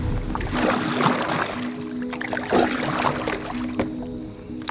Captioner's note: water splashes